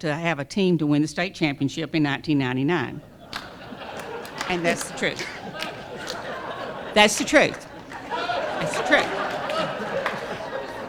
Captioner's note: laughter; more laughter